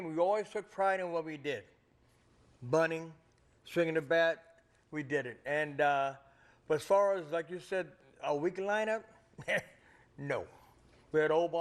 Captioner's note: laughter